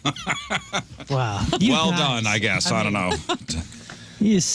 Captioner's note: laughing